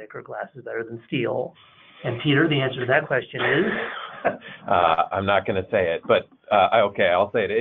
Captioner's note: chuckles